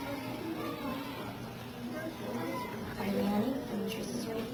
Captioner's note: students chattering